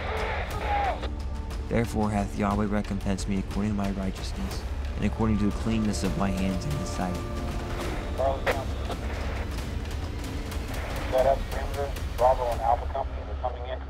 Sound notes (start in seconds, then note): 7.6 radio crackling; 8.2 dramatic music crescendo